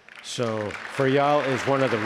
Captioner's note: attendees applause